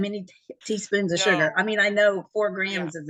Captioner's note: laughs